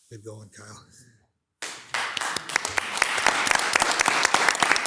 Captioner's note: hands clapping